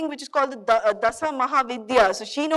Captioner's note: speaking in foreign language